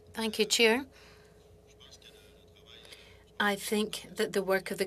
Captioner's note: speaking French